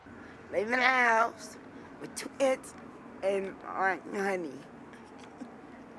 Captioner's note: laughs